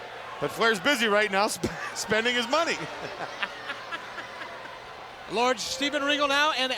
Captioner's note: laughs